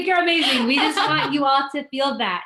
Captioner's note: laughs